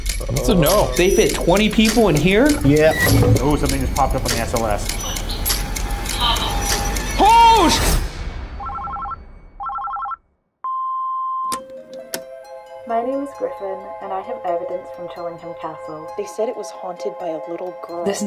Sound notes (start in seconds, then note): 9.6 phone ringing; 10.7 machine beeping